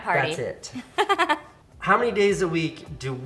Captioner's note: laughs